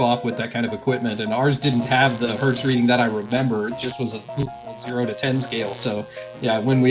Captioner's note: sound: electrical crackling